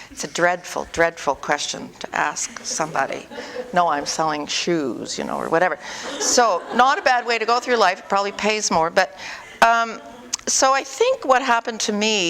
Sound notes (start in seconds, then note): 5.8 audience: Laughter